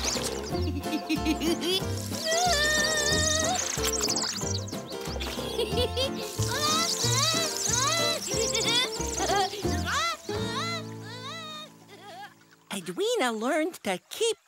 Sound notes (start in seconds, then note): 0.1 giggles and warbles; 3.2 birds chirp; 6.6 giggles and warbles